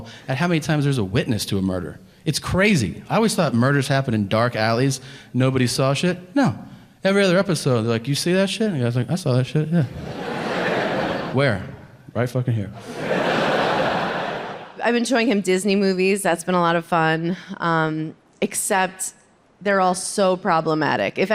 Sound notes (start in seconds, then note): 9.8 audience laughing